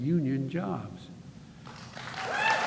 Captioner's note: applause